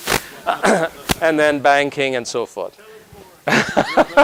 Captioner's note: cough